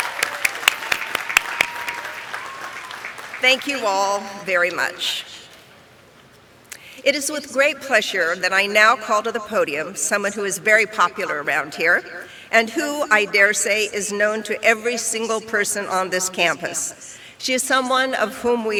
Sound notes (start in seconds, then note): 0.0 applause